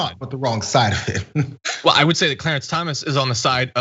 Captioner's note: laugh